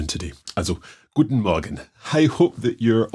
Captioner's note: speaking in German